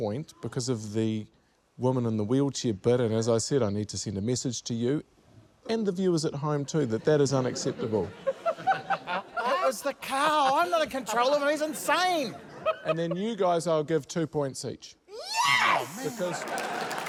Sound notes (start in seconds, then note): 6.7 laughter; 16.1 applause